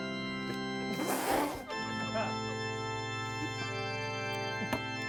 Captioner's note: everyone laughs